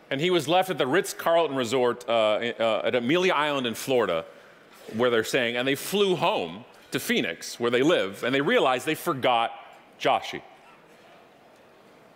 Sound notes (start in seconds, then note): none